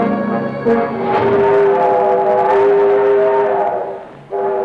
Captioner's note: train horn blowing